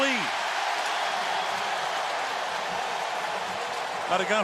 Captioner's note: cheering